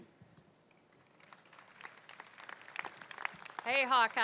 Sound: crowd applauding

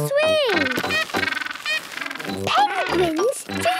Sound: honking

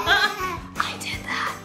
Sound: laughing; whispers

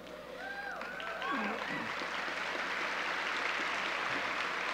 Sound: audience cheering

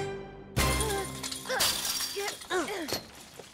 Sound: grunting

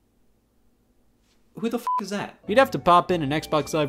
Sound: beep

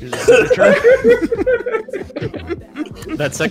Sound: laughter

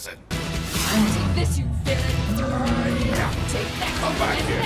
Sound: voiceover

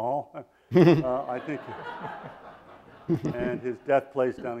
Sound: audience laughs

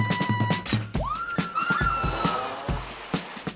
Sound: screaming

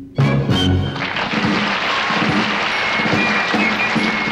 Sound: audience applauding

